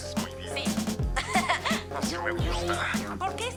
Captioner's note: laughs